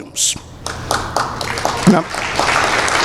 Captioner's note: applause